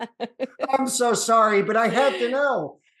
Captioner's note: laughter